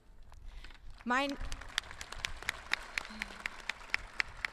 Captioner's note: audience clapping